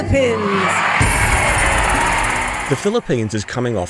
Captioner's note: audience cheers